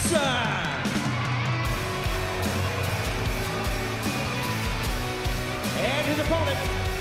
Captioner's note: crowd cheering